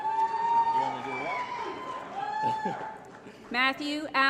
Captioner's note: applause & Cheering